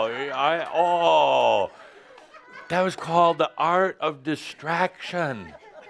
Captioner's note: more laughter